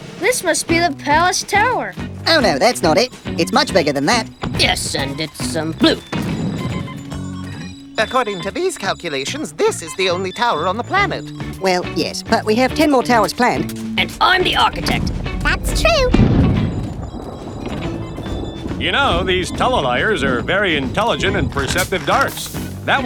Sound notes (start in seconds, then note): 3.5 another rumbling sound; 8.0 more rumbling; 18.8 even more rumbling as they talk